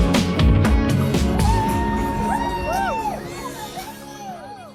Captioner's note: cheering